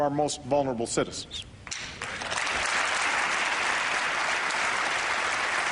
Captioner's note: applause